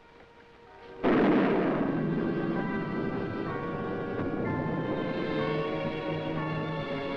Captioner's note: intense music; thunder rumbling